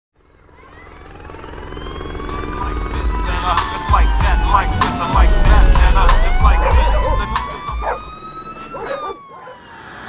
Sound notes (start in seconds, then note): 0.5 children's playing; 1.7 police siren; 2.1 rap music playing; 6.1 dogs barking